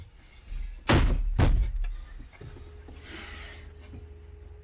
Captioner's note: wood thumping